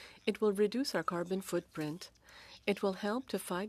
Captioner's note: speaking French